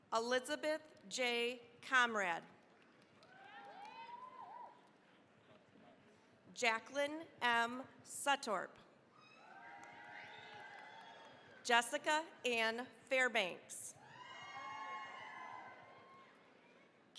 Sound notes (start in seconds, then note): 3.2 cheering, applause; 9.4 cheering, applause; 14.0 cheering, applause